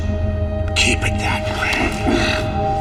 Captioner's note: crow